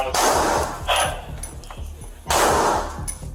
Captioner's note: gun firing